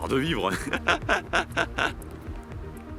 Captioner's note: laughs